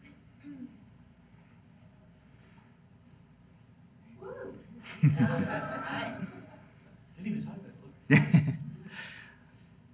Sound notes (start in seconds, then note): 5.0 audience laughs